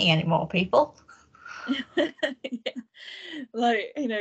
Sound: both laugh

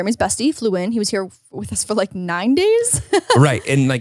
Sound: chuckles

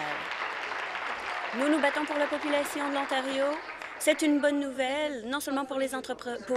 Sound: applause

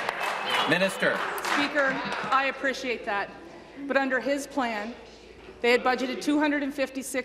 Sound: applause

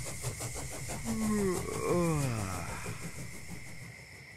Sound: yawning

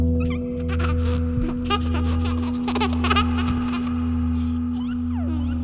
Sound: laughing baby

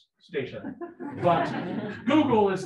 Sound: people laughing

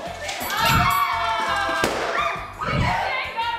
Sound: bell chime

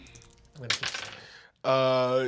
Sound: dice clack

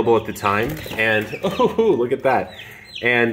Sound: chick flapping

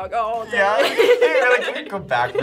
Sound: both laugh

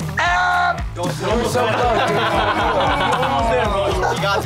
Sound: wails

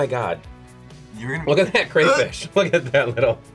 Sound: gags

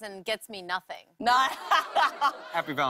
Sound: laughter

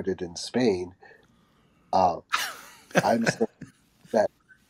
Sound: José chuckling

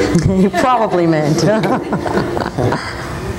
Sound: laughs

